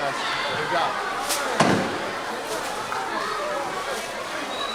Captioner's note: audience chattering